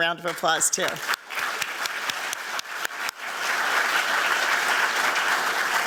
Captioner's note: applause